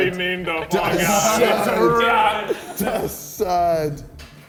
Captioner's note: men jeering